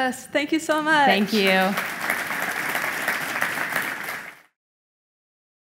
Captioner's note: audience applauding